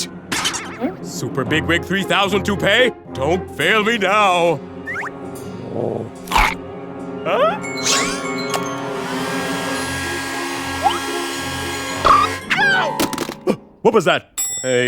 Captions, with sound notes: SUPER BIG-WIG 3000 TOUPEE, DON'T FAIL ME NOW. (CRUNCHES) HUH? (HAIR DRYER WHIRS) YEOW! HUH, WHAT WAS THAT? WAIT A MINUTE...